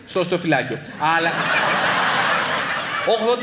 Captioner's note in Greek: γέλια